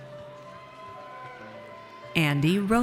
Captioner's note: audience cheers